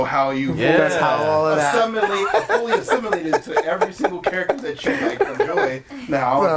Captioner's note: overlapping chatter and laughter